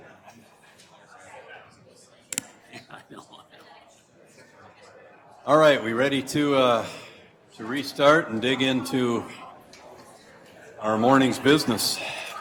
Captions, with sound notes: (people chattering) - All right, we ready to restart and dig into our morning's business.